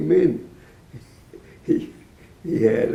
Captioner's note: laughing